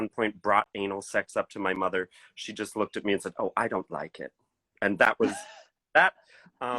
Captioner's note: laughing